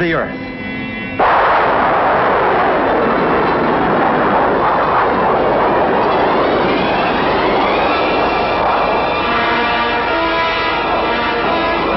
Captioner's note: blast off sounds